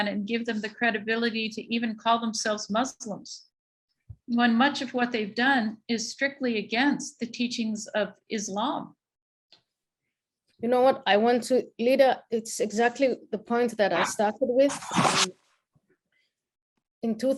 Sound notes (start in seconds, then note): none